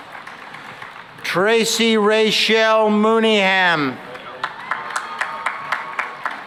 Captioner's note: cheering and applause